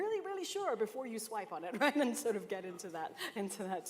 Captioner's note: laughter